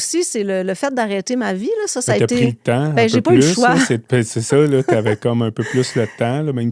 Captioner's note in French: rires